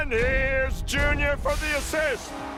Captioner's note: steam hisses